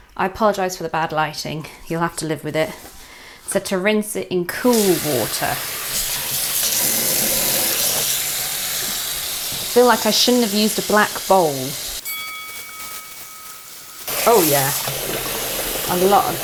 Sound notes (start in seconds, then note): 5.7 tap running; 12.0 bell dings